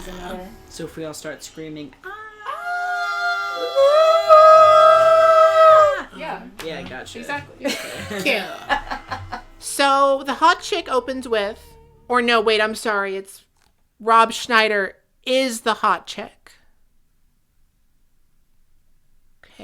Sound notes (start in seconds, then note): 6.2 everyone goes ahhhhhhhhhhhhhhhhhhhhhh; 7.5 laughs